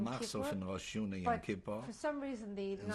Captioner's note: speaking yiddish